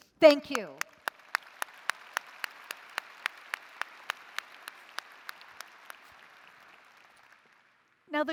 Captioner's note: applause